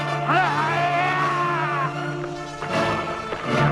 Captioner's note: raider yells